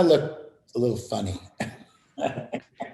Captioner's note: laughter